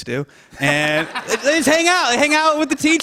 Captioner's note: laughter